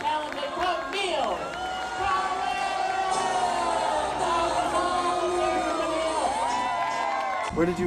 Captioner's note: cheers